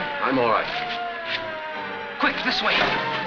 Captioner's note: sirens